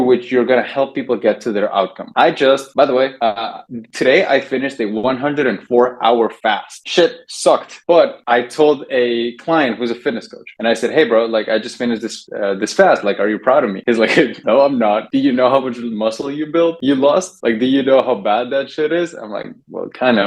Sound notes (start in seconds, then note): 14.0 laughs